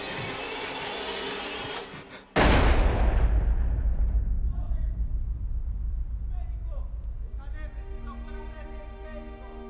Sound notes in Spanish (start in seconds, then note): 2.3 Disparo